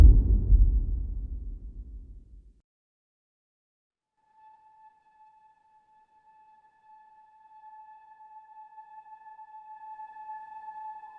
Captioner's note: dramatic sound